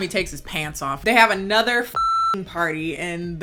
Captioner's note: beep